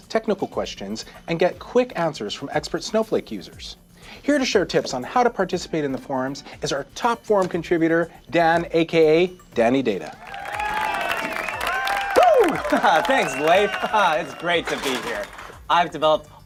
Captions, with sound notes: where you can ask technical questions and get quick answers from expert Snowflake users. Here to share tips on how to participate in the forums is our top forum contributor, Dan, aka Danny Data. (audience cheering) Woo! Thanks, Leith. It's great to be here.